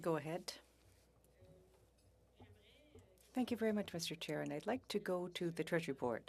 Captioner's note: speaking French